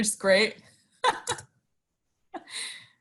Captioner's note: laughs